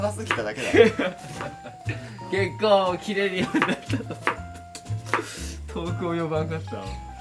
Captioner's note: laughs